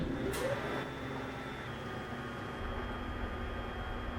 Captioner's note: elevator moving